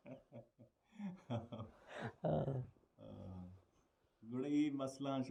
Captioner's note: laugh heartily